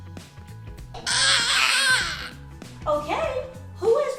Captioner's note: girls gag